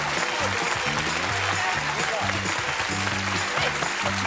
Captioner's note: applause